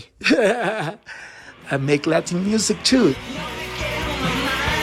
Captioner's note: laughter